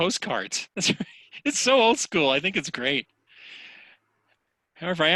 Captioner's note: laughs